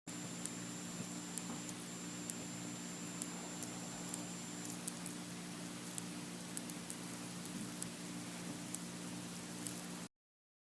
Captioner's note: high pitch clicking